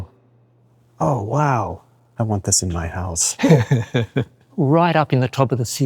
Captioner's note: laughs